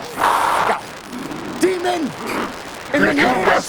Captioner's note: demon roaring